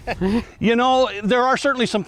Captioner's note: chuckles